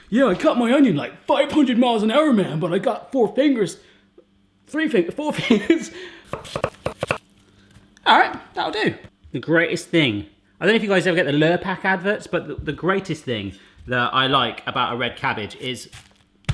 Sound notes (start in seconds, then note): 5.8 laughs; 6.3 quick chopping